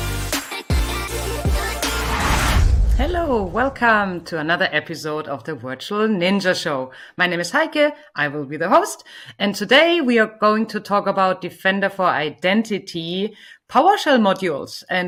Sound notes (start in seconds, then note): 1.6 air whooshes